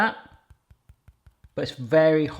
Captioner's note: light tapping